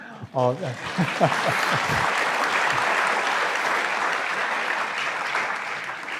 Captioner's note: audience laughs; audience applauds; laughs